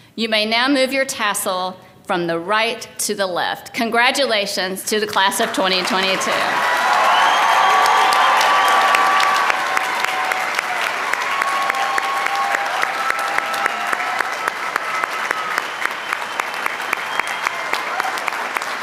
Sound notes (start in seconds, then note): 7.2 applause